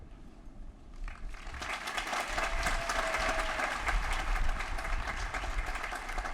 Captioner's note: applause